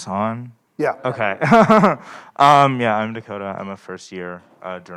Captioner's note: chuckles